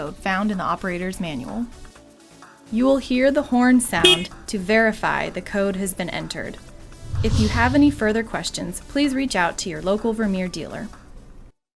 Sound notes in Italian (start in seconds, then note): 3.9 clacson